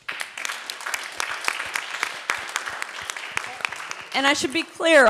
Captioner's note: audience applauding